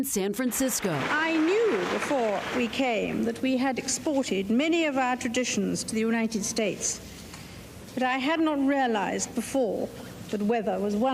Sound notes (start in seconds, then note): 0.4 applause